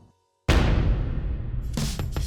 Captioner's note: metal thudding; chill groove music